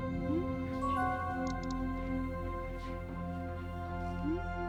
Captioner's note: texts chiming